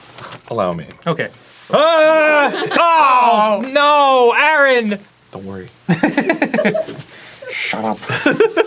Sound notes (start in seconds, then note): 1.8 immediately yelling